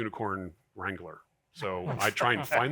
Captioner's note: audience chuckling